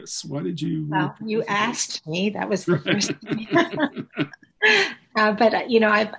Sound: laughs

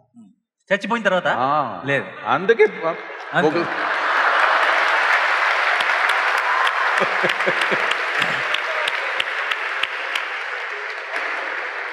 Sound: Sadhguru laughs; laughter/Applause

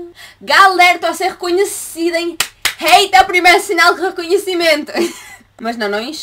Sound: laughter

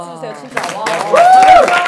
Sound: applause

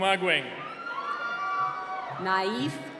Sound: cheering

